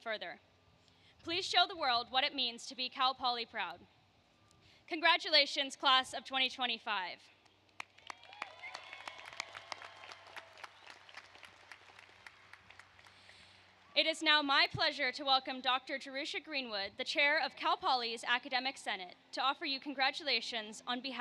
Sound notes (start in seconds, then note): 10.5 applause